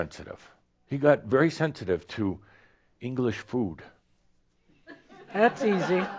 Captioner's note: laughter